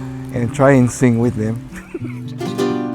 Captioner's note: laughs